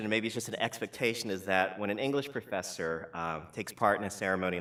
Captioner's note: none